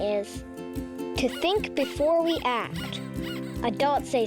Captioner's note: rabbit squeaking